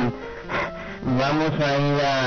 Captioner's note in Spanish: Respiración